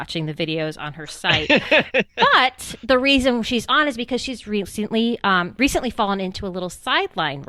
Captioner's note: laughs